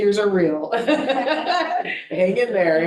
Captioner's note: board members laughing